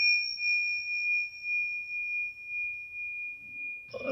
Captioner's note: bell rings